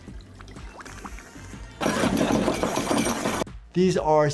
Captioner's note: liquid bubbling; device crashing